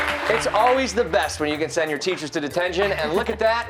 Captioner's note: cheers and applause